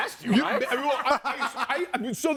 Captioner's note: laughs